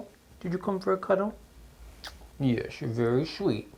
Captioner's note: lips smooching